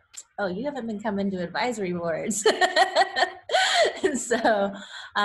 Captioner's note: laughs